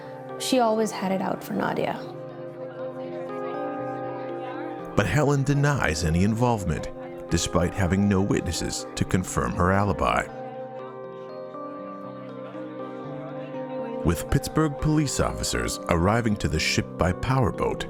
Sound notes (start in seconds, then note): 14.0 people chatting